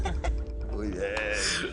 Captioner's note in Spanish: Risas